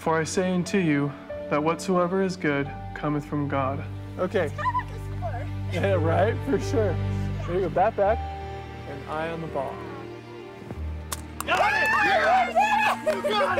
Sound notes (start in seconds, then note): 11.3 all cheering